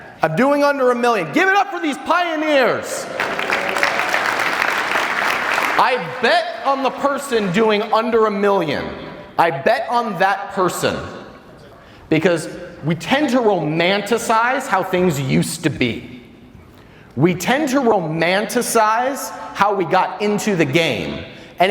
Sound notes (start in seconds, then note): 3.1 audience applause